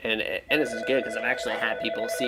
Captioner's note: phone ringing